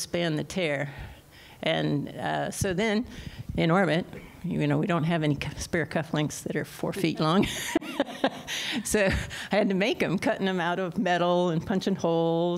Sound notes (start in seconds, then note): 7.0 laughter